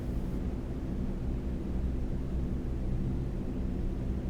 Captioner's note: aircraft engines sounding